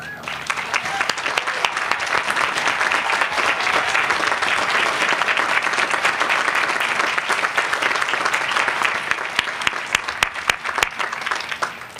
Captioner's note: applause